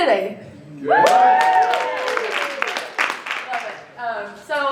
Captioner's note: cheering, applause